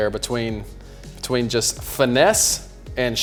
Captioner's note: none